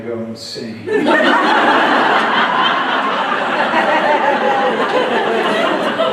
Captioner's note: big sustained laughter